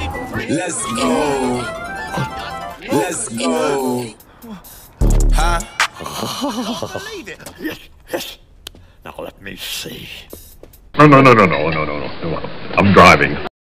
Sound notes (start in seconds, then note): 5.4 laughs